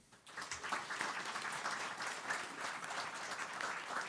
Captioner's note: audience applauds